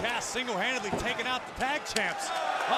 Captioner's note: crowd cheering